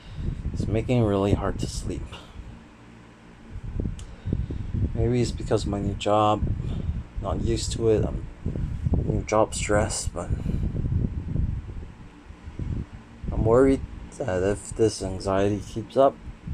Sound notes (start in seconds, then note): none